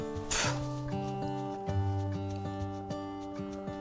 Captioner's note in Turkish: homurdanır